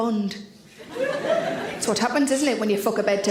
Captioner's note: audience laughs